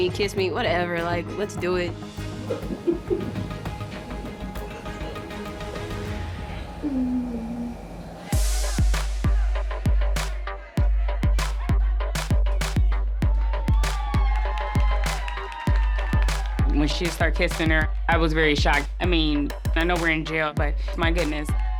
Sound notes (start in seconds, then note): 2.4 giggling; 8.0 hip-hop instrumental music; 12.9 inmates cheering